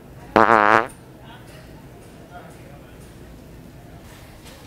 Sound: farting noise

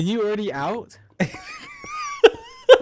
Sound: laughing

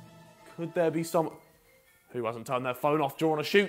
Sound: phone Rings

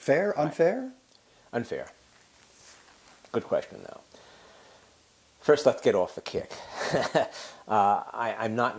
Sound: laugh

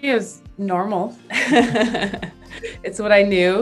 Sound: both laugh

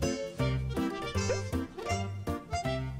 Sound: sniff sniff

